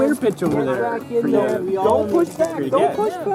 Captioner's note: stoke & porter arguing; stoke & porter arguing